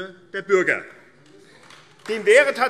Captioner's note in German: Vereinzelter Beifall AfD